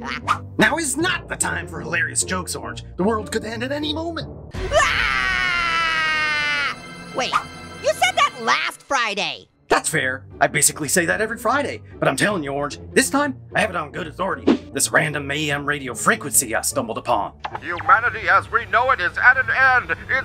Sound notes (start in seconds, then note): 4.6 Orange yells